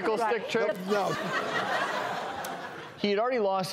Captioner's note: audience laughs